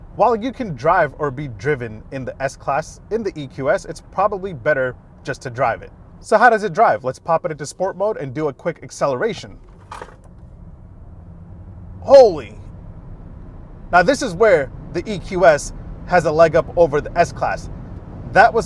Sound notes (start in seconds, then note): 11.0 engine revving